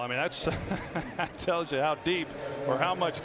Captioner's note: laughs